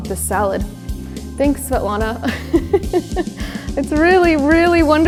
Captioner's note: laughs